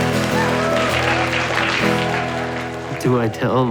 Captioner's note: cheering